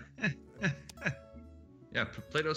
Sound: laugh

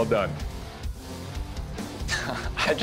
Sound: laughs

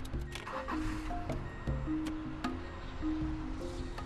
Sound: car engine starting

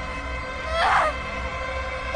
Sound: screams

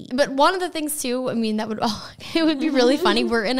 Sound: laughing

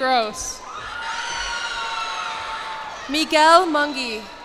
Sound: cheers and applause

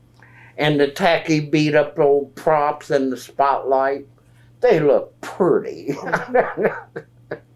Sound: laughs

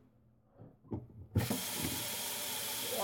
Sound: water running

